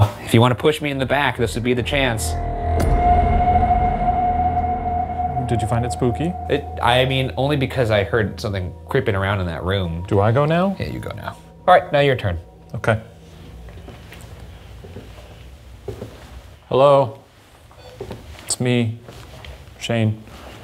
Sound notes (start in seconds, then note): 2.8 ominous music; 15.9 footsteps clacking